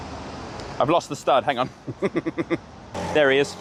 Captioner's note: laughs